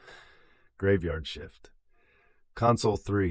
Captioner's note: sighs